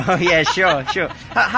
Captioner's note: laughter